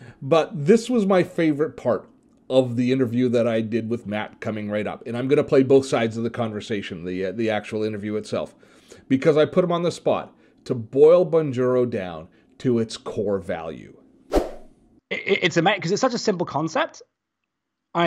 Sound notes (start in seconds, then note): 14.3 swooshes in